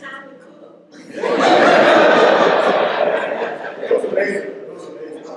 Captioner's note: laughter